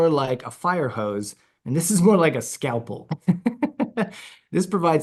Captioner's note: laughs